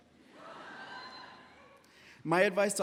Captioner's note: audience laughs